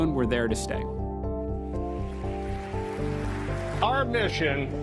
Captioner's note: applause